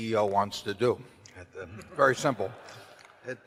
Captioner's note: laughter